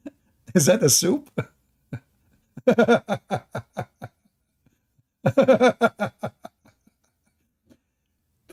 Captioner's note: Ketawa